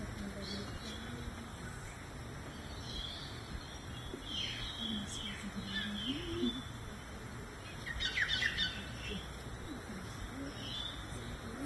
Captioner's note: birdies chirp chirping in background